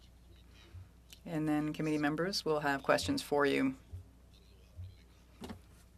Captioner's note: speaking French